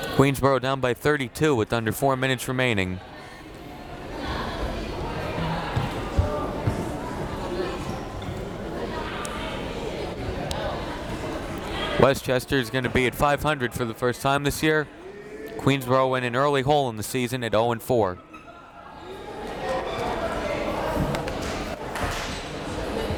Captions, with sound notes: Queensborough down by 32 with under four minutes remaining. (crowd members talking) Westchester's gonna be at 500 for the first time this year. Queensborough win an early hole in the season at oh and four. (crowd members talking)